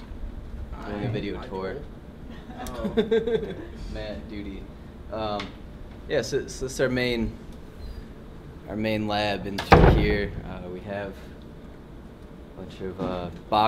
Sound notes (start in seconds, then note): 2.3 laughs